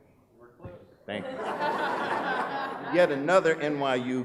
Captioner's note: laughing